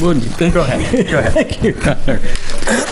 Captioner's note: laughs